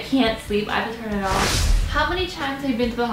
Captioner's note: rush of air